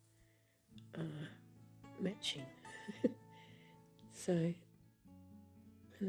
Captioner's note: laughs